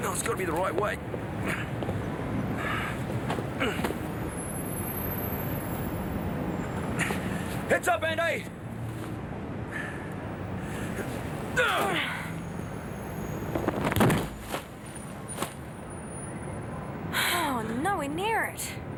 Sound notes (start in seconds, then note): 11.5 John and Jodie grunt; 13.6 dummy smacking ground